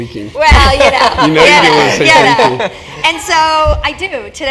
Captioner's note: laugh